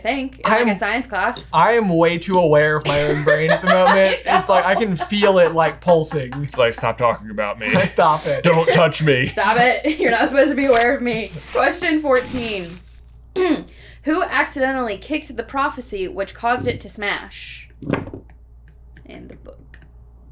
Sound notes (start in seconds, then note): 3.7 laughing